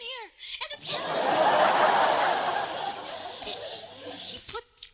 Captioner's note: laughter